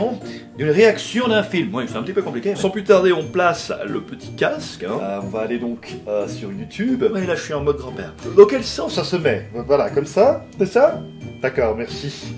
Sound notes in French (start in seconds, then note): none